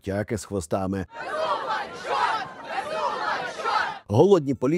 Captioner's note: the crowd chants “Bezugla is the chort”